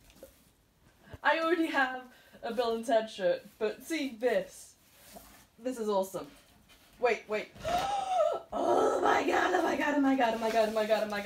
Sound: mega gasp

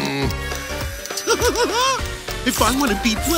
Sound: grumbling; giggling

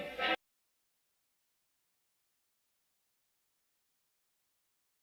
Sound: silence

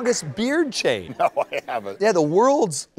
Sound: laughter

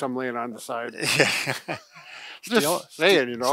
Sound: chuckling

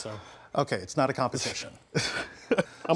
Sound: chuckles

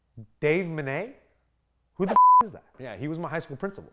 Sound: beep

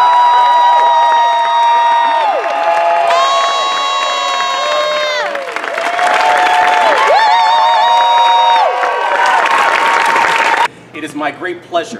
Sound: cheers; applause

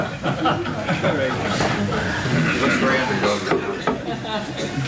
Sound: laughter

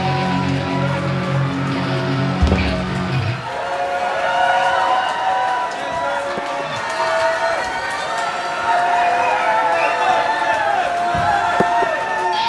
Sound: cheers

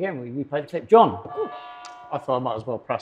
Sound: doorbell

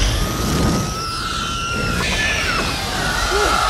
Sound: witch-king screeching

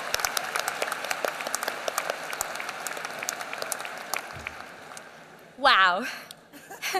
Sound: applause

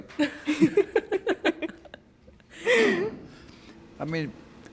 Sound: women laughing softly

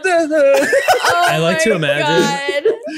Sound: laughter

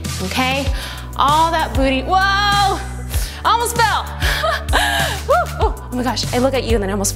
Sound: chuckles

